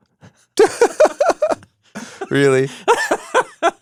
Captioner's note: both laugh